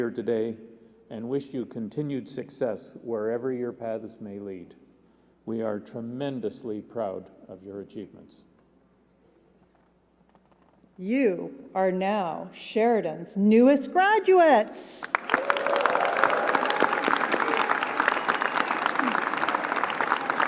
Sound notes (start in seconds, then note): 15.0 applause